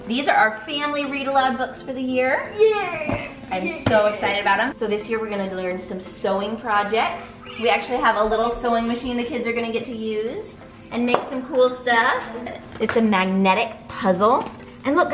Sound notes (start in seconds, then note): none